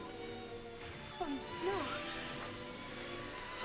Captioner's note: crying